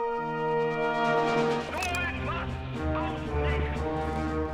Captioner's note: speaking german